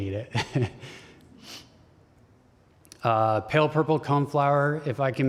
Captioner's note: laughter